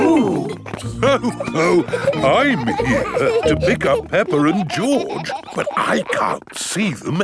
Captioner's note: laughs